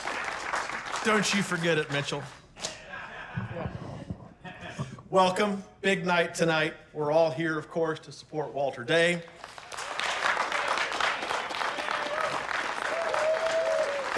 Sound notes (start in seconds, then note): 0.0 applause; 2.6 laughter; 9.3 applause and cheering